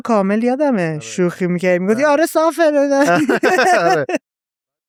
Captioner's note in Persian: خنده